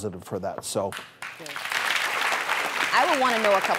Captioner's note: clapping